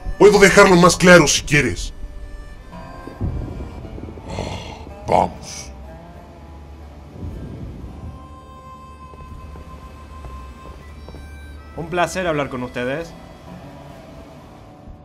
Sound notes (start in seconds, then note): 4.2 sigh